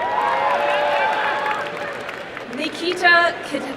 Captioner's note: applause and cheering